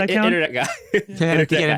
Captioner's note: chuckling